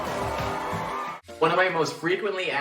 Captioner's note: crowd continues cheering